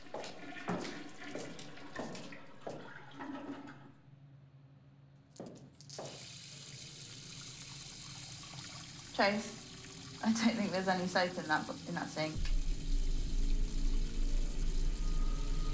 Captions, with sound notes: (ominous music) (water flowing) Trace, I don't think there's any soap in that sink. (suspenseful music)